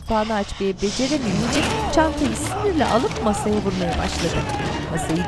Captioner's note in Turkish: Bağırma sesi